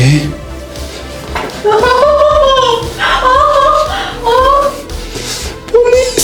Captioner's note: scream